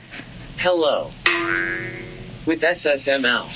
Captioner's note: boing